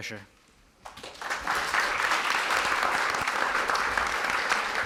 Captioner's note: audience applauding